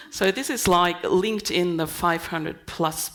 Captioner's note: none